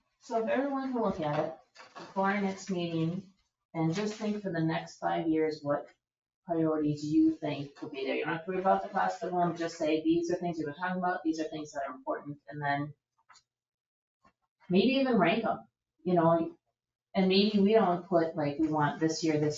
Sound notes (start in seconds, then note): none